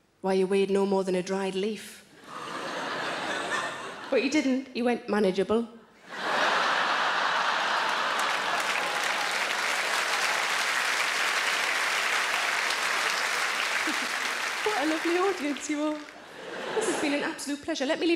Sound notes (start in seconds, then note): 2.2 audience laughs; 6.7 audience applauds